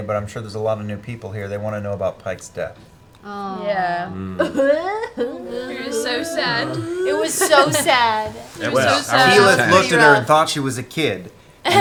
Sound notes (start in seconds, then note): 3.4 fake cries; 11.6 laugh